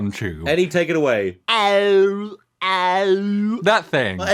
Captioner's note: groan tube noises